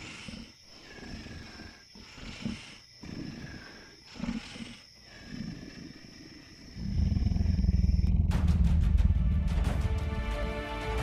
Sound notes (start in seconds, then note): 1.6 snarling